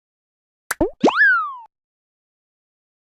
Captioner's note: cartoon pop/click; cartoon slide